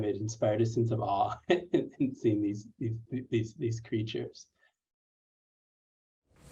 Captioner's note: laughter